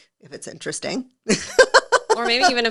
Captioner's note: laughing